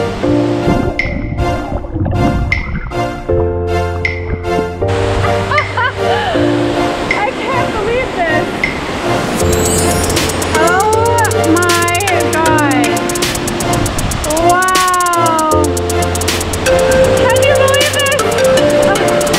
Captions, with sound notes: (water bubbling) (laughter) I can't believe this. Oh, my god. Wow. I can't believe this.